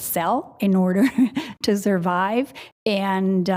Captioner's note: laughs